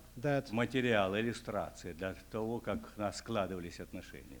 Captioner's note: non-english speech